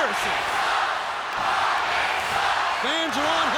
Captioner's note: fans chanting